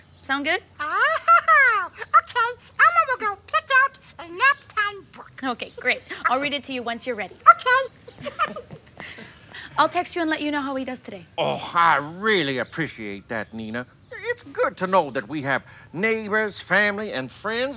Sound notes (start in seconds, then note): 7.4 giggles